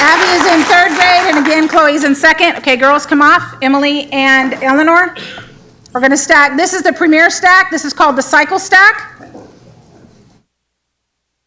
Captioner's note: applause